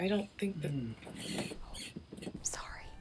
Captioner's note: Matthew stirs; whispered